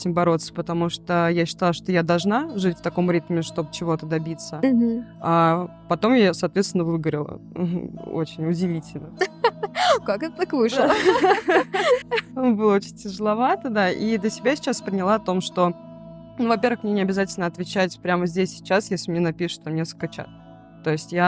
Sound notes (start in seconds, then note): 10.7 both laughing